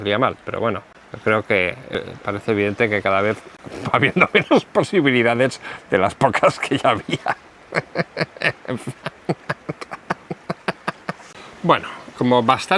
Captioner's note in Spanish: risas